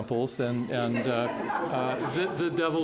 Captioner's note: laughing